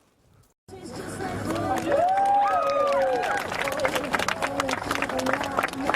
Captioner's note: cheering